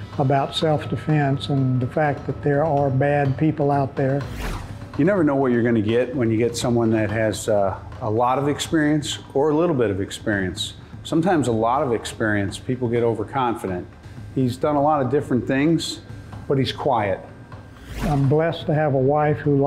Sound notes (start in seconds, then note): 17.7 whooshing